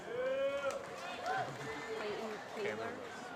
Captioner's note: applause